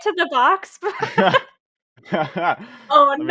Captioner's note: laughter